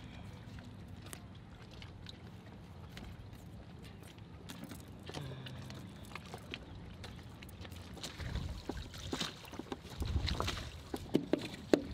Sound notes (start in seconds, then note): 5.1 humming softly; 9.0 water lapping